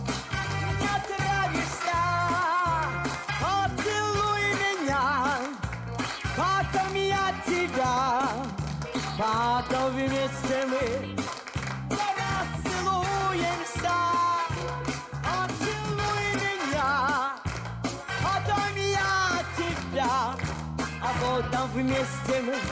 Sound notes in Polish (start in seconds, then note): 6.9 Aplauz